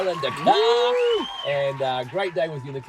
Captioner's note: audience applauds